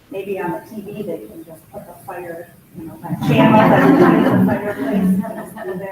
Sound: both laughs

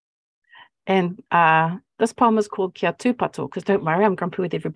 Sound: speaking Maori

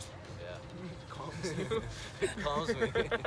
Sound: laughs

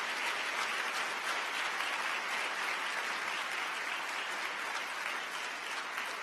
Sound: applause

